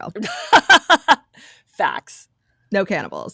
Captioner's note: laughing